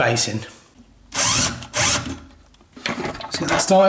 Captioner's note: drilling